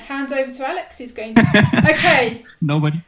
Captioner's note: laughs